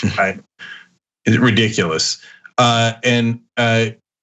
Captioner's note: laugh